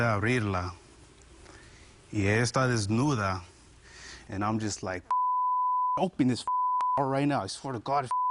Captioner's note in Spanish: Bip